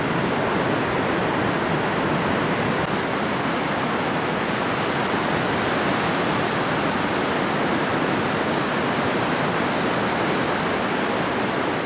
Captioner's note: wind blowing